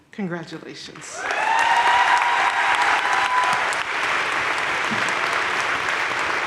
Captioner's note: audience cheering and applauding